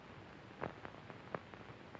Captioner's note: none